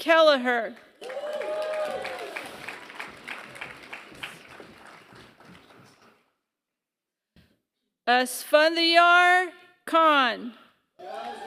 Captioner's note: applause; applause